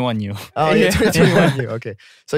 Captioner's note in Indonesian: tertawa